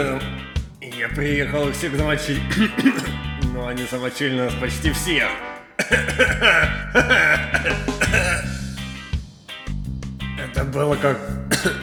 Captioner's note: coughs